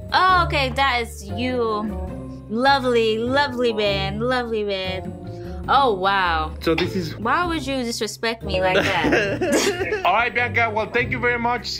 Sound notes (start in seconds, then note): 8.6 laughing